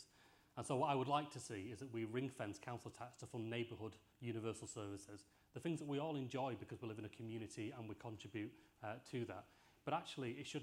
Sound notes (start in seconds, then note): none